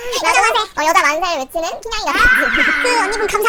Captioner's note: laughs